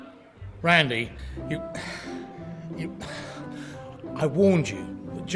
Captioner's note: sighs